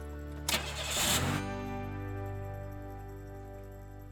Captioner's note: engine cranking